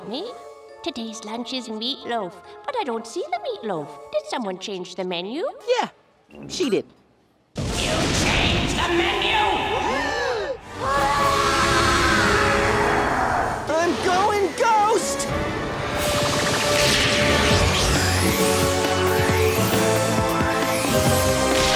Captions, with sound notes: Today's lunch is meatloaf, but I don't see the meatloaf. Did someone change the menu? Yeah. She did. You changed the menu?! [gasping] [screaming] I'm going ghost!